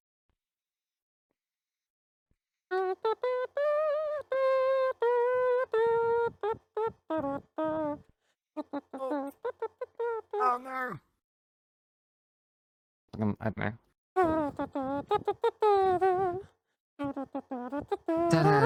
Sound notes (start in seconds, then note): 2.7 humming to music